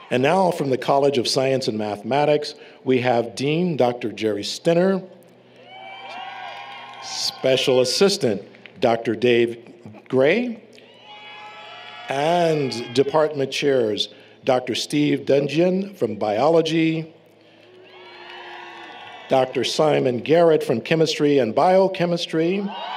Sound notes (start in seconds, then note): 5.6 applause, Cheering; 10.8 cheering; 17.6 cheering; 22.7 applause, Cheering